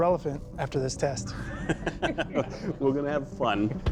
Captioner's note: chuckles